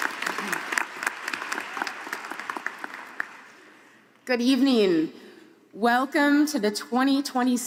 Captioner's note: applause